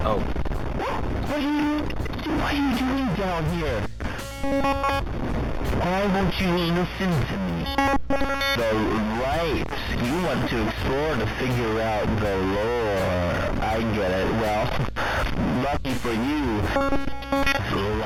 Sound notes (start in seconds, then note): 5.9 glitching noise